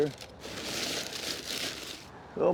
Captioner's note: paper rustling